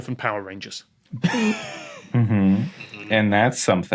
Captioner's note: wheezes